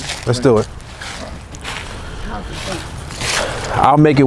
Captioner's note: footsteps